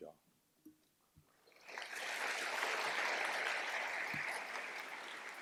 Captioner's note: applause